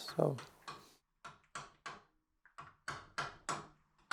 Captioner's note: chisel tapping